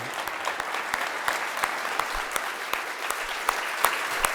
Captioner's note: applause